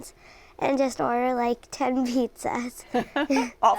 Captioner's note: laughs